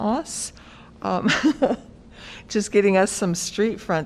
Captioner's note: laughter